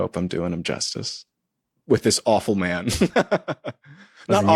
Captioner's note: laughs